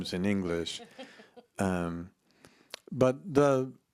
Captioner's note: laughs